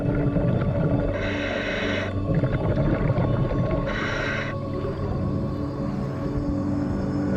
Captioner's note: suspenseful music; underwater breathing